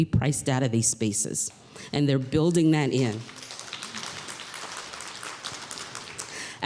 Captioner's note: applause